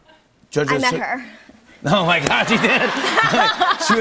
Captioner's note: laughter